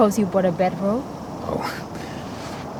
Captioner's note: scoffs